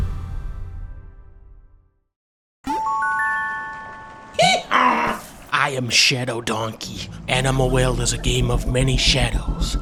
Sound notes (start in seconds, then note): 2.6 magical music playing; 4.3 donkey braying